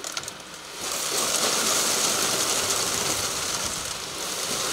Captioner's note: cement pumping